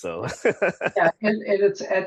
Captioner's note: laughs